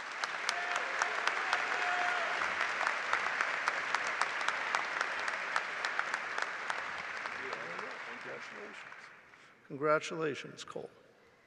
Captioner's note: applause